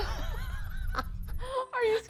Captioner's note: laughing